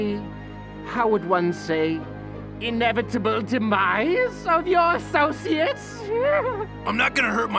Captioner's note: giggles